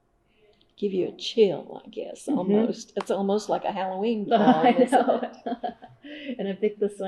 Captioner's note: laughter